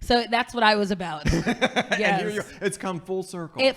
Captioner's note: laughing